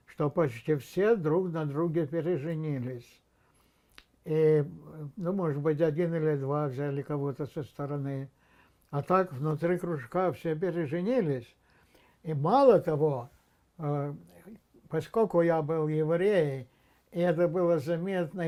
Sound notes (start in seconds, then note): none